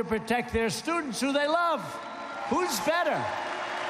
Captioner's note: applause